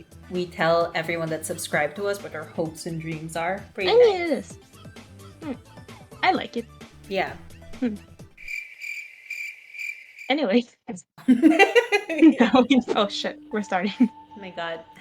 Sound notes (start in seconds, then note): 8.4 crickets; 11.2 lols